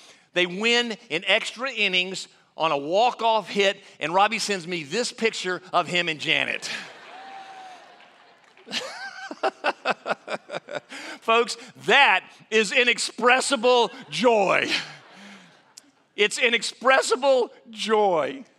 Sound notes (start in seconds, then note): 6.6 audience laughing; 9.0 laughing